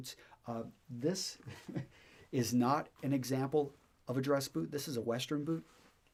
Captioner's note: chuckles